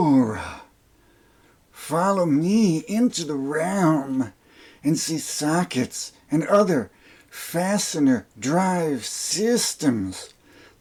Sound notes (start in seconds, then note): 0.0 peter lorre voice